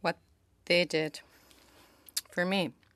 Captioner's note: speaking in French